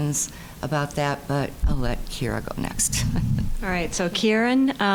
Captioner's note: chuckling